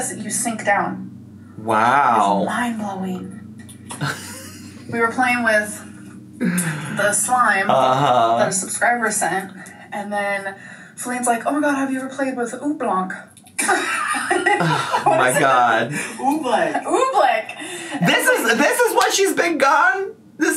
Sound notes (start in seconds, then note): 13.6 both laugh